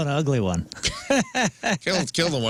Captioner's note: laughing